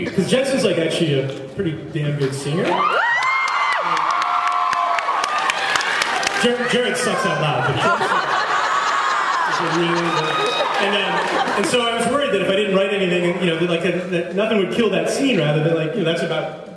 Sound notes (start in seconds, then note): 3.1 cheers; 7.1 laughs